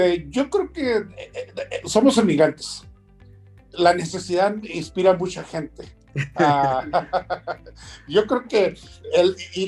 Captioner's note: laughs